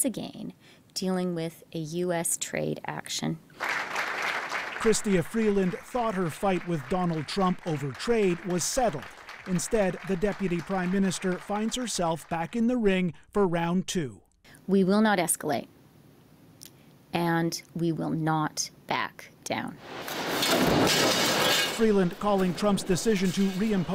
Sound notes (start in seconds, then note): 5.8 applause